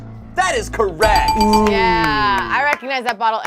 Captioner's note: bell dings